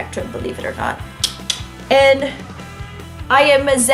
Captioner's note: clicks tongue twice